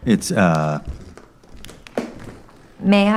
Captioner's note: footsteps